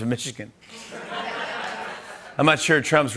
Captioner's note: laughter